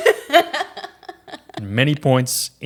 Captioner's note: laughing